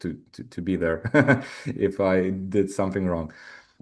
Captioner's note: chuckles